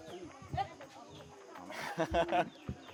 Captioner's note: laughs